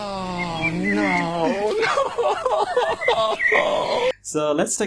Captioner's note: crying Hearing His Nonsensense